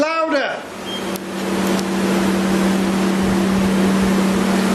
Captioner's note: device beeping